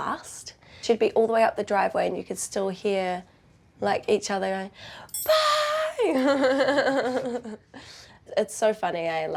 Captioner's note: chuckles